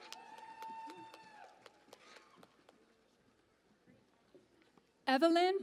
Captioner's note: cheering and Applause